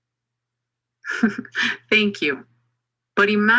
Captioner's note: laughs